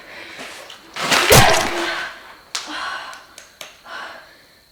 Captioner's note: blood splatters